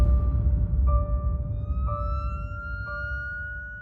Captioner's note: siren wailing